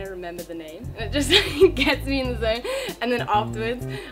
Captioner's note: laughs